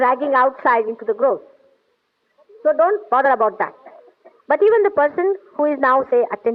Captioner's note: laughing